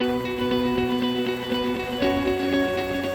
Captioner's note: sound of running water